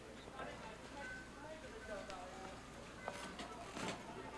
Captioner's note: people chattering